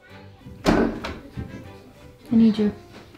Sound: christmas music plays; door opens

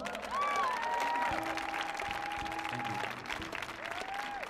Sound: audience applauding

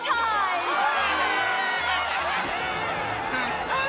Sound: cheering

